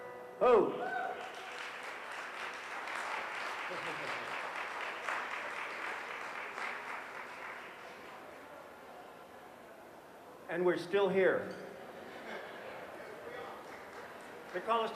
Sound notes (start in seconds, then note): 0.9 audience applauds; 3.6 chuckles; 12.0 audience laughs